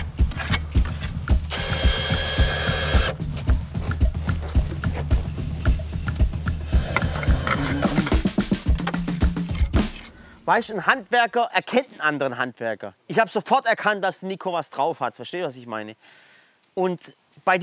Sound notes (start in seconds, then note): none